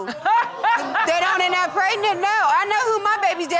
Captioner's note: Judge Lake laughing